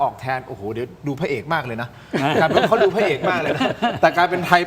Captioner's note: laughs